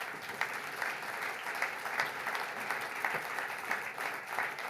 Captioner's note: audience applauds